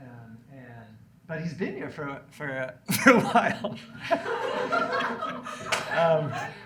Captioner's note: laughs